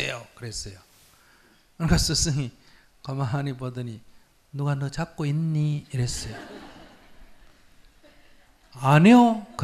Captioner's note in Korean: 청중 웃음